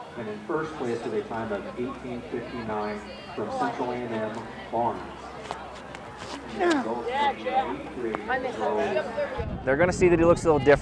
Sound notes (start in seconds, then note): 6.5 track and field sounds